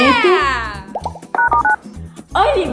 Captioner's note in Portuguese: som de teclas do telefone